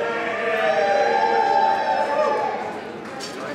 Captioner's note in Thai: เสียงเชียร์